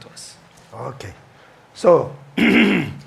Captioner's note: clears throat